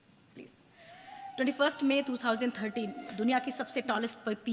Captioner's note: speaks foreign language